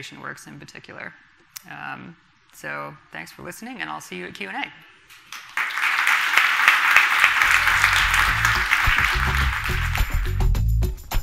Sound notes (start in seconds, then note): 5.3 audience applauding; 10.0 groovy music